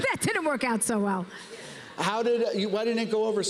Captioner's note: laughs